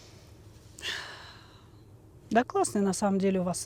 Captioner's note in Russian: вздыхает